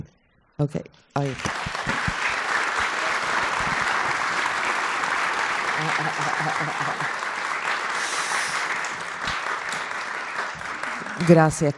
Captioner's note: applause